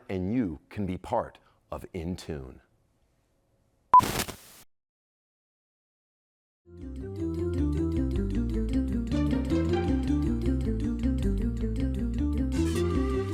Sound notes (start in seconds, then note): 3.9 beep; 6.7 upbeat music